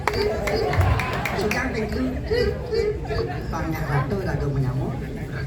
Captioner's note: applause